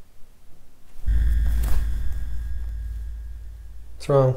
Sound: eerie whooshing

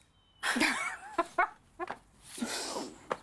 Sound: laughing

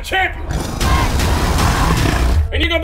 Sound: crowd Cheer

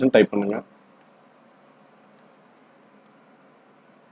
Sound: typing

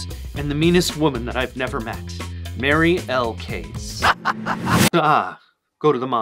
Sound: pure evil laughter

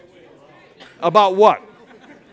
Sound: chatter from audience

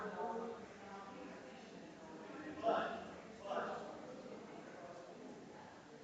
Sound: people chattering distantly continues

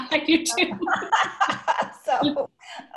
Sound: all laughing

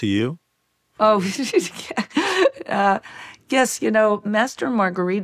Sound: chuckles

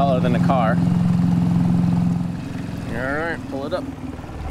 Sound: boat motor humming

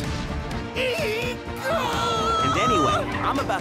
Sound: screaming

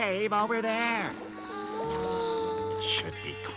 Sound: buzzing

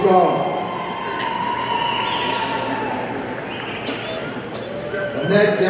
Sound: audience cheering

